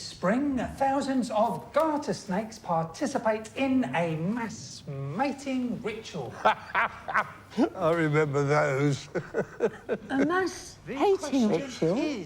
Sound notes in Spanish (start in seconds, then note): 5.8 risas